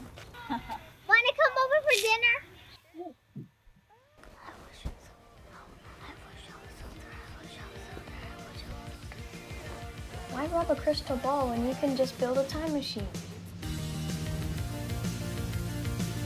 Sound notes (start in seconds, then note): 2.3 whispering; 13.6 upbeat music